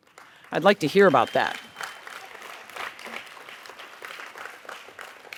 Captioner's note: audience applauds